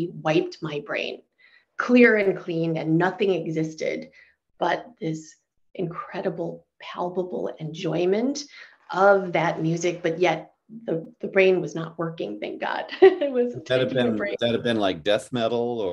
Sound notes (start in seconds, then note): 13.6 laughing